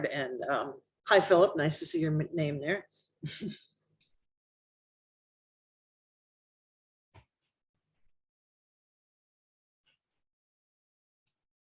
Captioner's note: laughter